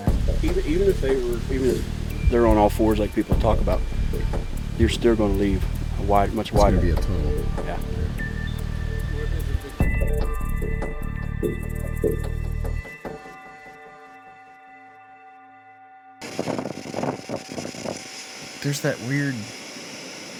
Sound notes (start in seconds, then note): 9.0 mysterious music continues; 16.2 wind gusting